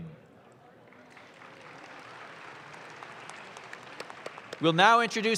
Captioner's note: audience claps